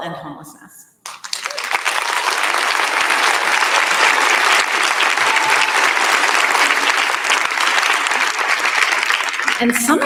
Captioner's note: applause